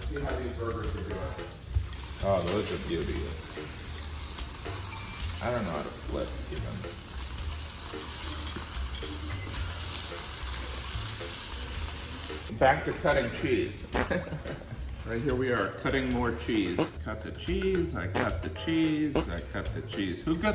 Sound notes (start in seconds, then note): 9.2 sizzling; 13.9 farting; 16.7 farting